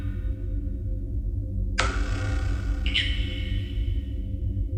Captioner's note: chanting